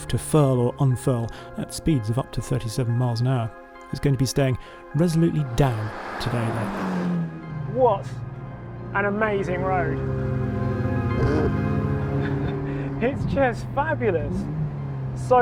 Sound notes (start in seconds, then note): 8.5 engine revving; 10.0 ethereal music; 12.2 laughing